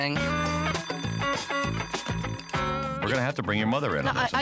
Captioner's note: class bell ringing